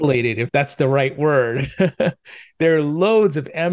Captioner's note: laughs